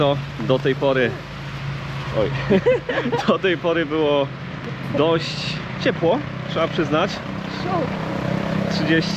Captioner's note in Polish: śmiech